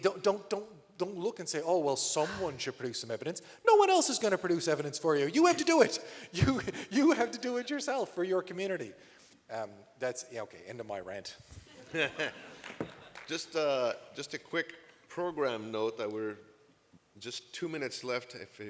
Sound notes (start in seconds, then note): 11.6 laughter